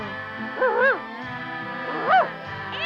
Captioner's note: Arrow barks